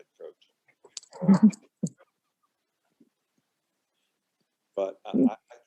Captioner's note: everyone laughing